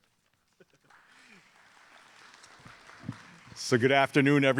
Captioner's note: audience applauding